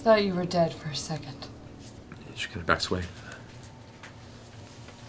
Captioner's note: distressed sounds